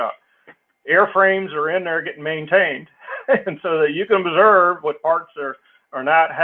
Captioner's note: laugh